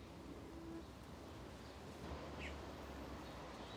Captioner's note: birds singing